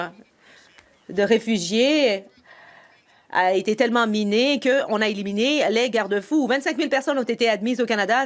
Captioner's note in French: voix de l'interprète